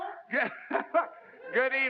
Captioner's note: laugh